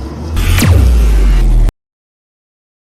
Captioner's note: portal forcefully closes